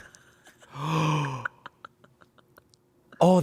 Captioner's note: Amanda laughs; gasps